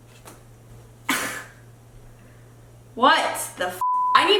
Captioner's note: scoffs; beep